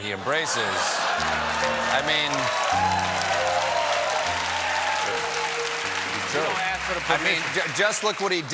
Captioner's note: applause